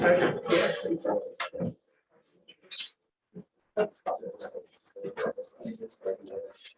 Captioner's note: background chatter